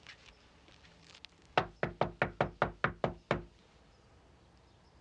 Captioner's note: door knocking